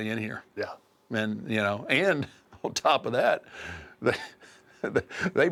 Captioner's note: laugh